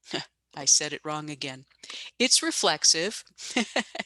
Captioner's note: laughs